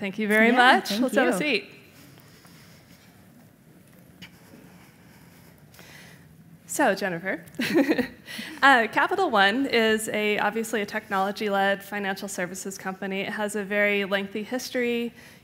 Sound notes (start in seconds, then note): 7.5 giggles